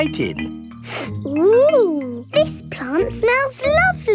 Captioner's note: sniffs